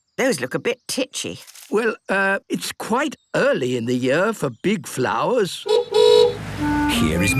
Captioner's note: honking